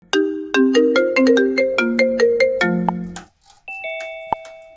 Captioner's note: ringtone